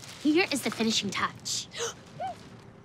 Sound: gasps

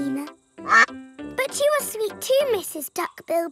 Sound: quacks

